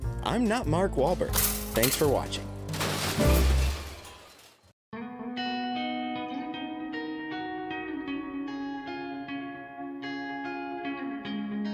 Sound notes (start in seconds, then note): 2.6 crashing; 5.0 gentle guitar arpeggio music